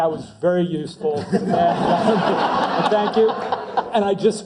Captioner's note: laugh